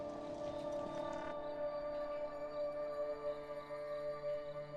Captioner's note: crickets chirping